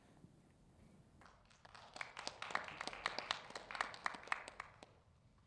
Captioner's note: audience clapping